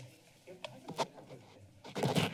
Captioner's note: rustles